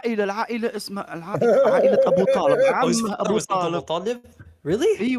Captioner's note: Ketawa